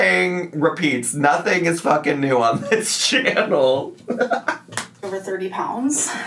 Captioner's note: laughs